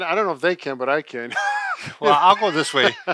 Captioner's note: laughing